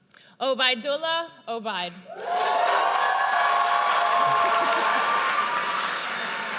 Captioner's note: audience cheers